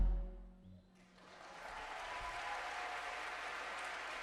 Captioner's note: applause